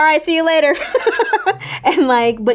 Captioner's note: Raven-Symone laughing